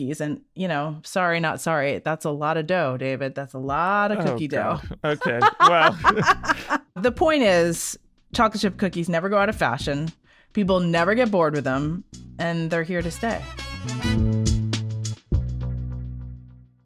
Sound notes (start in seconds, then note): 6.6 person laughing; 14.2 upbeat music